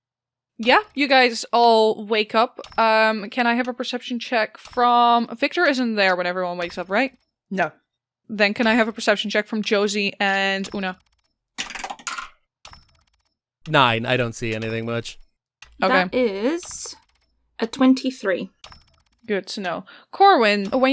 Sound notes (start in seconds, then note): 11.8 good dice tower clacks